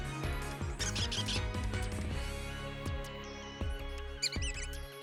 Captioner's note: squeaks; squeaks